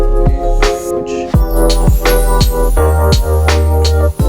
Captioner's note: speaks faintly